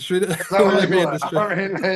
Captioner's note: laughing